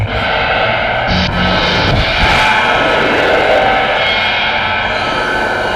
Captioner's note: machinery whirs; machinery buzzes